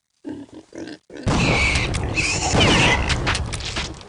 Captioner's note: pigs squealing; gun firing